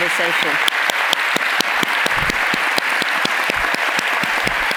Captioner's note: audience applauds